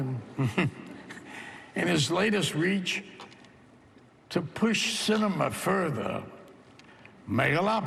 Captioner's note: chuckles